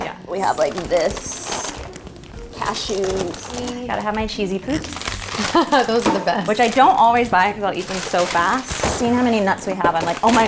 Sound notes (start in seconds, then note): 4.2 laughing